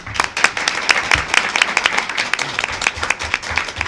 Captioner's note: clapping